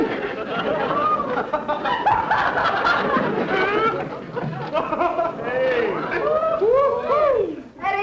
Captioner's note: audience laughter